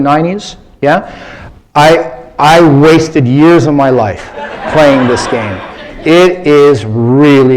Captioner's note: laughter